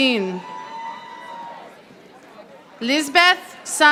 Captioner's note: audience applauding